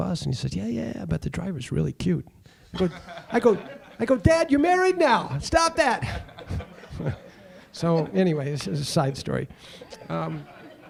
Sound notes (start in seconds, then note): 6.0 audience laughing